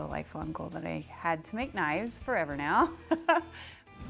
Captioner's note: laughs